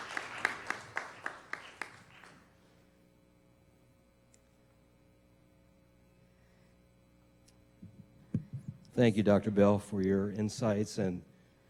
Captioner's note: clapping